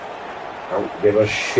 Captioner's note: crowd Noises